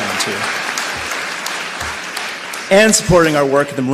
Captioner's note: cheers and applause